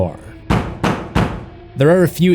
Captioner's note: knock knock knock